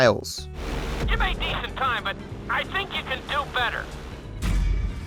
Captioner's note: instructor on radio